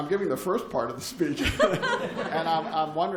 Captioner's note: laughter